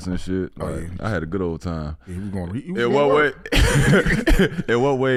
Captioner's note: laughs